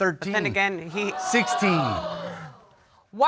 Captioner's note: audience exclaims